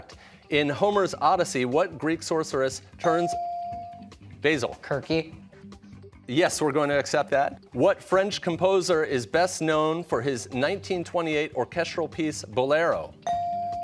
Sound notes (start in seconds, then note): 6.0 with soft Cs